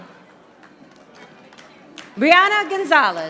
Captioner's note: audience applauding